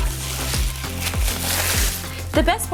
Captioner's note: paper crinkles